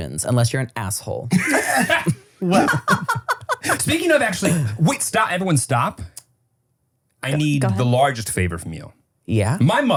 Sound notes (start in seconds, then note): 1.4 laugh